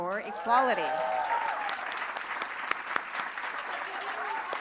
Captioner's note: applause